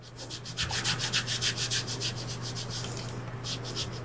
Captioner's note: scrapping